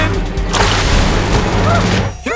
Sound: splash

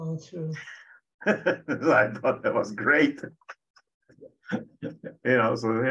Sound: laughs

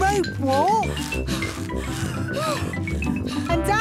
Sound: puffing and panting

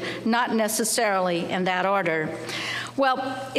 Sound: none

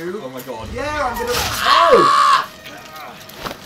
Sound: screeching

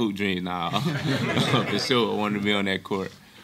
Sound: laughing

